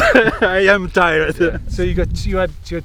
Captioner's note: laughing